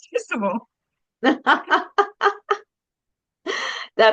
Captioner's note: laughs